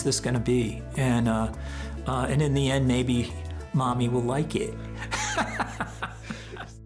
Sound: laughs

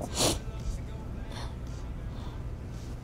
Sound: sniffs

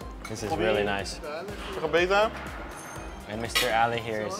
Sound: speaking Persian

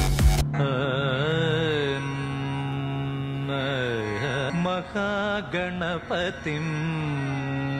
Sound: radio frequency changed

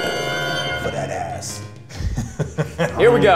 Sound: laughing

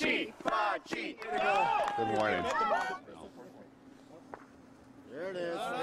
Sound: cheering and applause

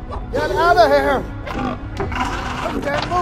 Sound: Gallimimus Sounds

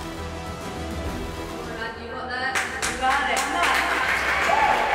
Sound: crowd

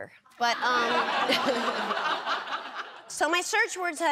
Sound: laughter

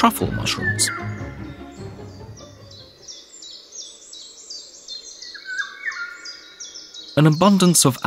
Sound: sounds of nature

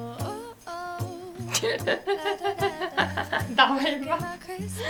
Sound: laugh

